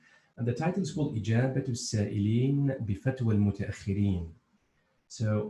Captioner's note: speaking in foreign language